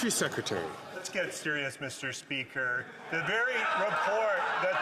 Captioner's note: some Applause